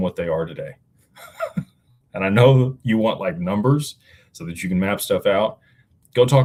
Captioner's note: laughter